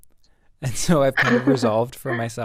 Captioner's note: both chuckle